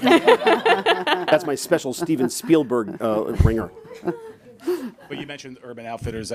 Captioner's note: chuckles